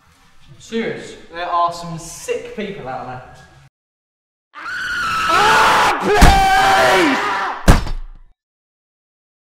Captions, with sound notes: I'm serious, there are some sick people out there. *Screams and axe thuds*